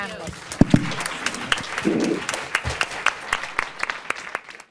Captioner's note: audience applauds